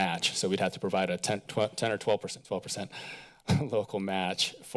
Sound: chuckles

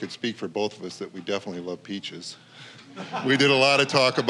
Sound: audience laughing

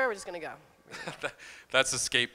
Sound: laughing

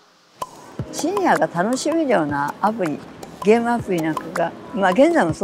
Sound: speaking foreign language

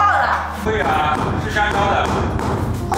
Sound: hammer

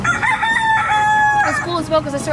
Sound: cock crows

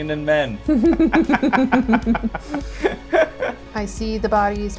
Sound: laughter

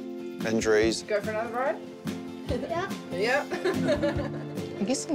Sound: laughs

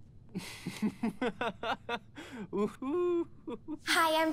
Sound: Robbie laughs

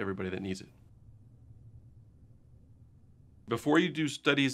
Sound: silence

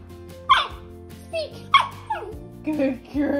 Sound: Sophie barks

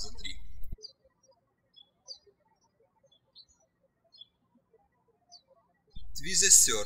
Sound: birds chirping

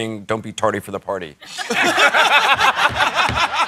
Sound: laughter

